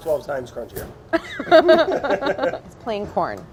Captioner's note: laughter